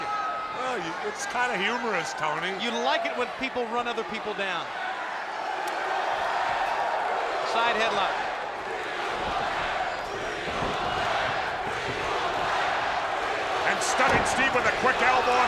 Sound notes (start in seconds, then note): 5.2 spectators cheering